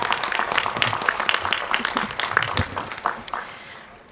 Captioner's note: applause